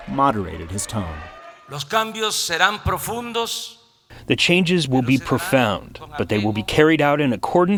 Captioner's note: through translator